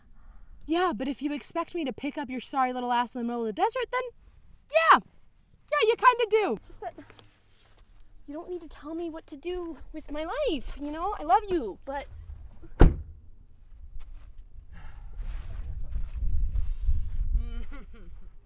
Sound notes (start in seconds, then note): 12.7 door slam